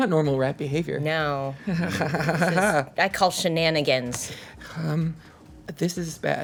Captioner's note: laughs